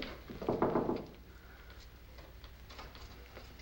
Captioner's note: knocking